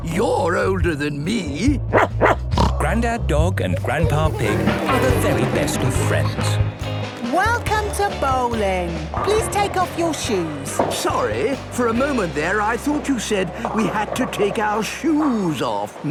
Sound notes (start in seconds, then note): 1.8 barking, snorting